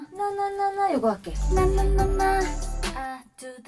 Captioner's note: higher tone